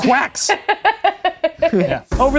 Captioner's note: laughing